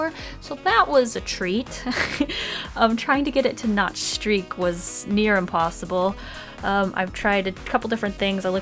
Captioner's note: laughs